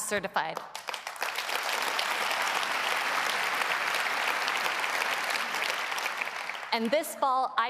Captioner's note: applause